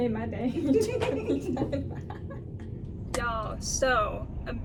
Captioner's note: all laughing